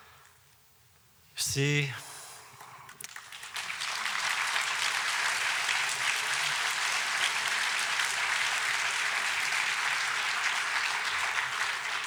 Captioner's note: applause